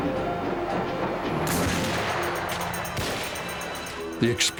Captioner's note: gunfire